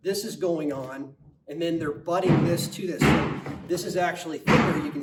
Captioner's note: crew hammering